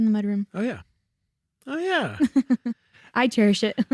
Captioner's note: chuckles